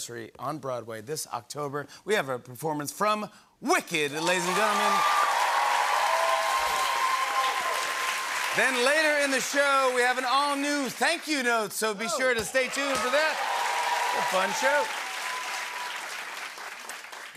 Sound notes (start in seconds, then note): 4.2 cheering and applause; 12.1 cheering and applause